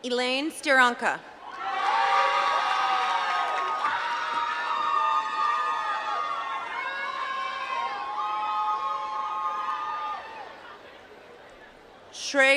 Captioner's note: applause